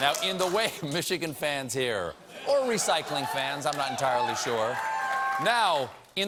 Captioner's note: applause